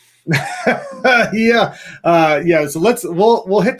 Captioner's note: chuckles